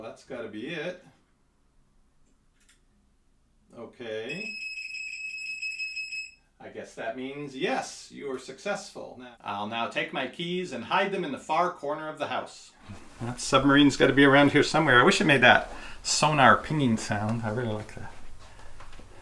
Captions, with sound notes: well that's gotta be it. Okay, (multiple beeping) I guess that means, "Yes, you are successful." I'll now take my keys and hide them in the far corner of the house. That submarine's gotta be around here somewhere I wish it made that sonar pinging sound, I really like that.